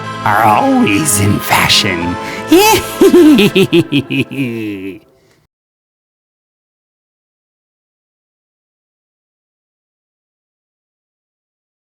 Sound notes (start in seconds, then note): 2.5 creepy laughing that trails off